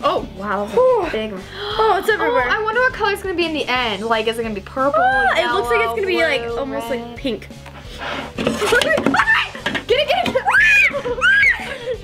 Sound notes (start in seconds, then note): 10.3 exclaiming; 11.8 both girls laughing